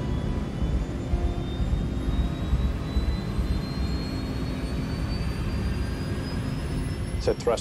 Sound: engine revving

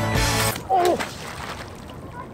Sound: splash

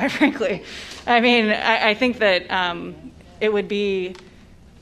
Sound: laughter

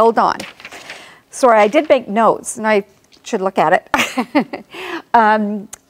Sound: laughs

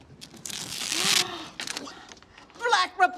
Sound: woman gasps

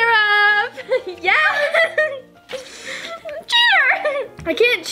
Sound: both laugh

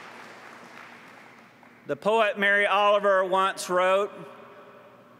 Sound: applause

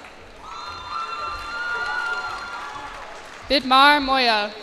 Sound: cheers and applause

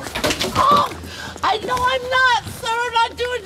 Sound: screams

